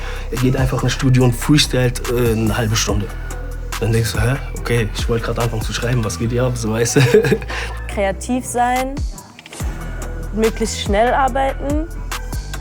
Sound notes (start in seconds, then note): 6.7 laughs